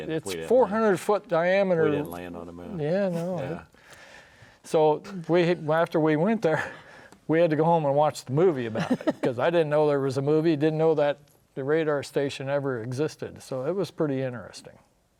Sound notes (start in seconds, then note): 6.2 chuckles